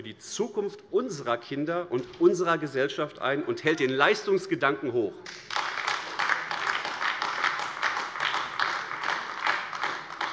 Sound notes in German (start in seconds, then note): 5.2 Beifall AfD